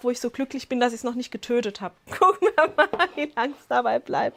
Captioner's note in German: Lachen